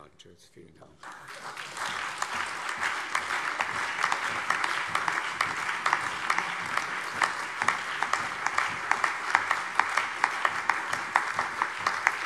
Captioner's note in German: Anhaltender allgemeiner Beifall